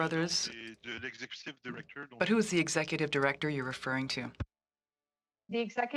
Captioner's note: speaking French